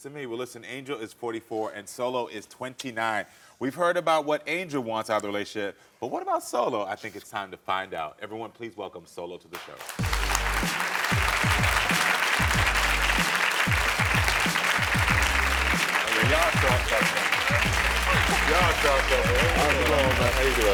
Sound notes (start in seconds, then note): 9.9 upbeat music; 10.3 audience clapping